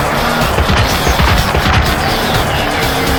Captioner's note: snap crackle pop